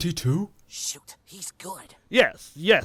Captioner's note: whispering